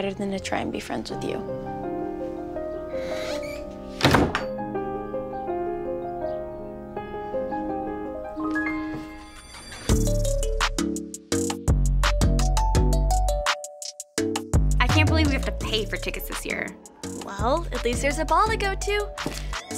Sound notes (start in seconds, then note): 9.5 bell ringing; 10.8 upbeat music